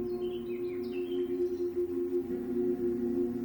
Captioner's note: birds chirping